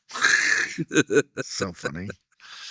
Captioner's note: laughing